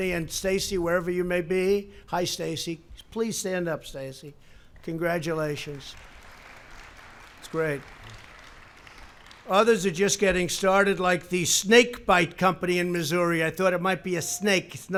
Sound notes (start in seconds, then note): 8.5 applause